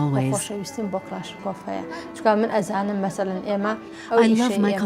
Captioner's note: Kurdish spoken audio